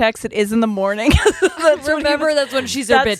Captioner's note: laughing